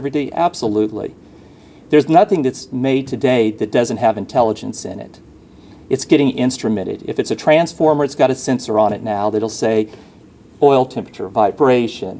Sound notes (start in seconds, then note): none